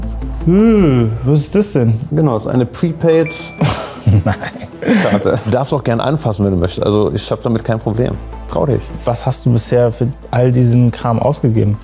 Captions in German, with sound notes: Hm! Was ist das denn? Genau, das ist eine Prepaid-Karte. - (lacht:) Nein! Du darfst auch gern anfassen, wenn du möchtest. Ich hab damit kein Problem. Trau dich. Was hast du bisher für all diesen Kram ausgegeben?